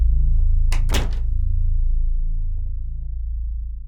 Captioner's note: door closes